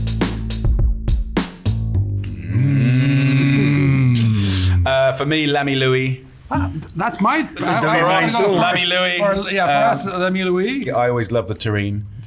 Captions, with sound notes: [upbeat music] [all hum] For me L'Ami Louis. - That's my, I also love. - For us, L'Ami Louis. - Yeah, for us, L'Ami Louis. - I always love the terrine.